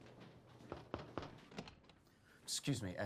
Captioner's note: knocks on door